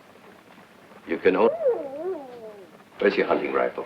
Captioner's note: wolf howling